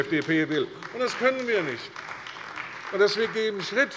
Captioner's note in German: Beifall bei der CDU